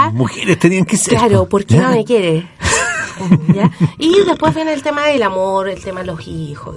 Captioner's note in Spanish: risas